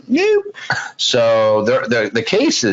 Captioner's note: laughs